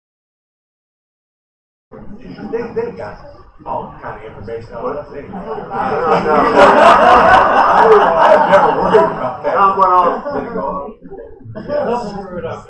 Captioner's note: laughter